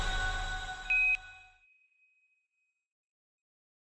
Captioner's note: quindar tone